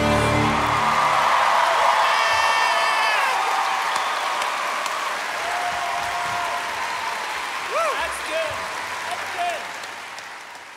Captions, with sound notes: (audience applauding) Yeah! (applause continues) Woo! That's good. That's good.